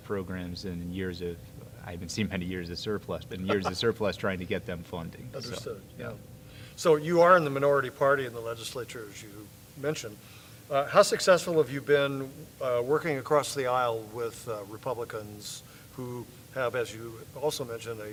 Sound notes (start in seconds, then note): 3.4 laughs